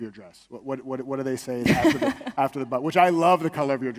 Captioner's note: laughs